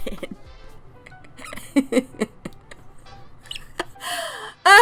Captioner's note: laughs